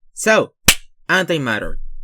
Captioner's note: clap